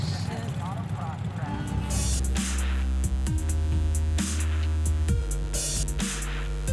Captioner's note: engines revving; upbeat music